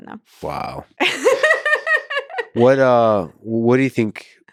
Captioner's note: laughs